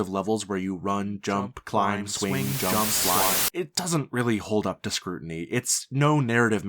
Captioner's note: static